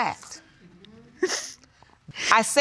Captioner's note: sobbing